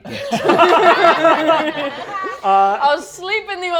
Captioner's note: all laughing